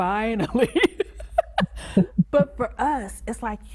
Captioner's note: laughs; chuckles